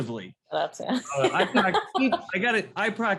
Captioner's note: laughs quickly